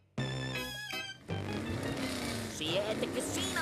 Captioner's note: engine revving